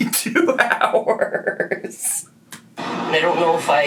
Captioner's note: laughs